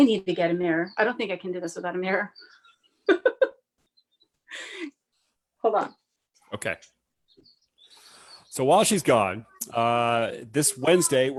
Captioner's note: laughs